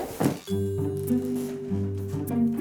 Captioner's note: playful sounds